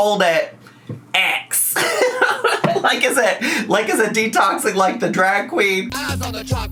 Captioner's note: laughs